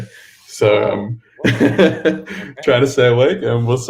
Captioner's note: laughs